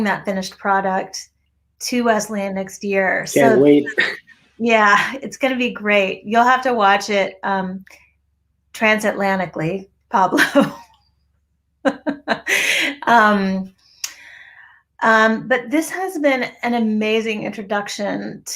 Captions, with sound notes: that finished product to Wesleyan next year. - Can't wait. - It's gonna be great, you'll have to watch it. Transatlanticaly, Pablo. (chuckles) But this has been an amazing introduction